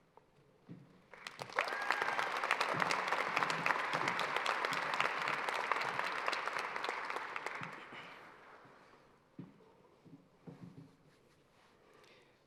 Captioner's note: applause